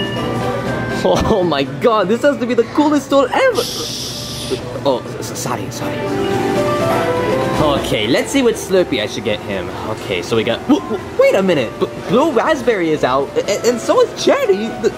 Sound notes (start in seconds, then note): 3.3 customer shushing; 6.2 upbeat music